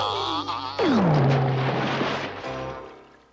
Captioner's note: crash